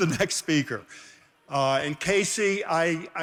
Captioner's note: laughing